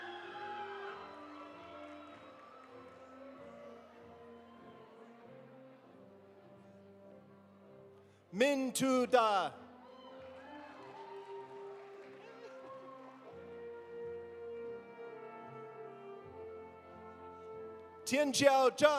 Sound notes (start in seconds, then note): 0.0 audience cheering; 0.0 audience applauding; 9.8 audience applauding; 9.8 audience cheering